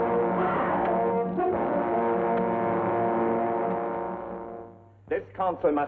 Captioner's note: suspenseful music; puncturing sounds